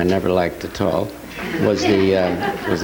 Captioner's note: audience laughing